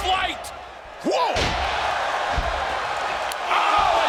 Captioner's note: crowd cheering